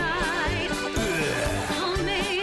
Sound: man grunting

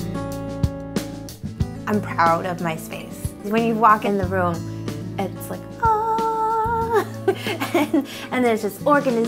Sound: giggles

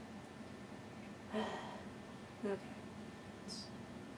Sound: exasperated sigh

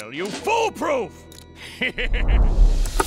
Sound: laughing

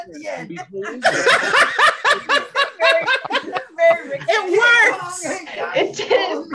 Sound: everyone laughs

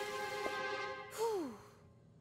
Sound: sighing

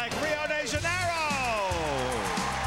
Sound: applause

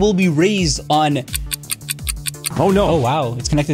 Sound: clock rapidly ticking

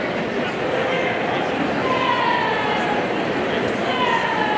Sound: audience murmuring

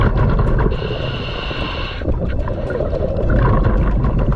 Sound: breaths in; intense music

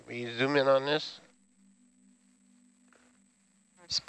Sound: male Voice

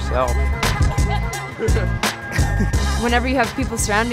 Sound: laughs

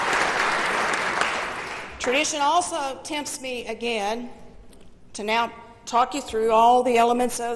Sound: applause

